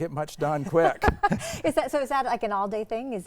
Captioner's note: both laughing